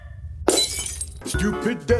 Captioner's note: shatters